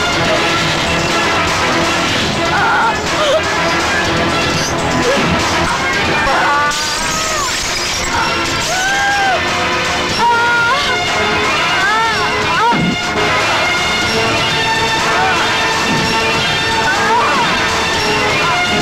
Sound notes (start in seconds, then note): 6.2 groans; 6.2 mirror shatters; 10.1 groans